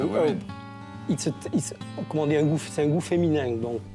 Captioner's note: speaks in french